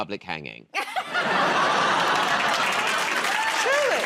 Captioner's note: laughter